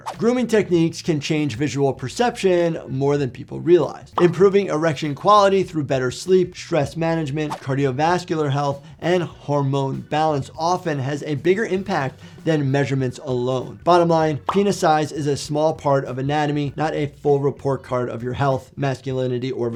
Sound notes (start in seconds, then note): none